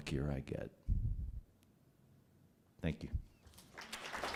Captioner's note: applause